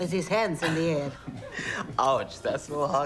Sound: laughing

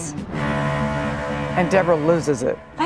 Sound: ship honks

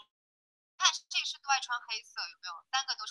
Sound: Mandarin

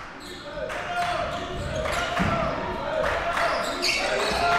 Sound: crowd cheering

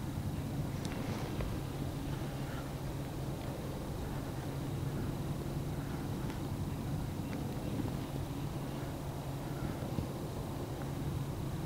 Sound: breathing heavily

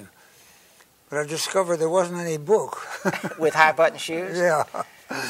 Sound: laughs

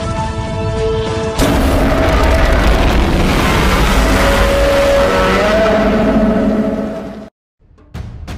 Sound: Godzilla Minus One roars

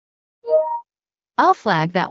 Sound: beep

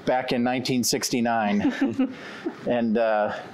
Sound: giggling

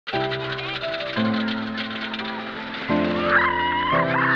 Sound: roller coaster clicking; shrieks

